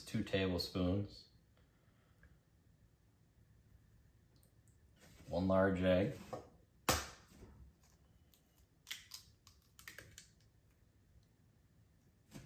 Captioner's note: egg cracking sound